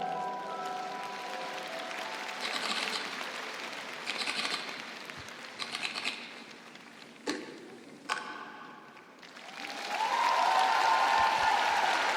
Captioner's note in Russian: ликование; аплодисменты